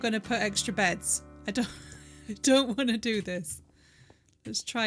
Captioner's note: laughing